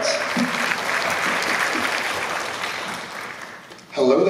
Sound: applause

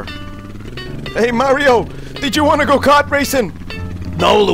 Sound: Luigi voice; Mario voice

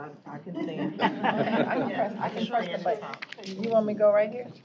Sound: laughter

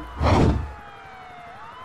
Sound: whoosh

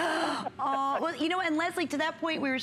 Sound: laughter

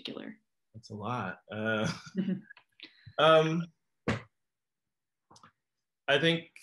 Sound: laughs

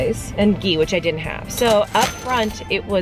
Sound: cash register dings

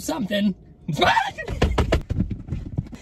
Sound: screaming; banging

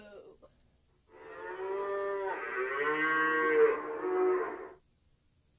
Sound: cow sounds

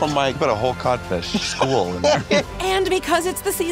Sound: laughs

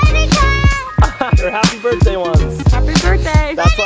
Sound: laughs

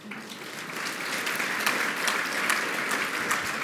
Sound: applause

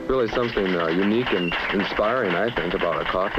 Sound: applauding

